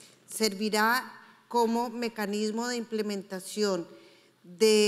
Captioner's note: speaking in foreign language